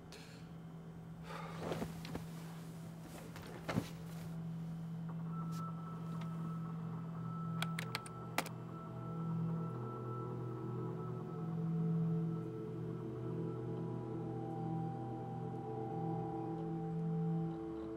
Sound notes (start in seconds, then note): 7.6 keyboard clacking